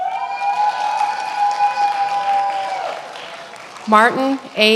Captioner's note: many applauding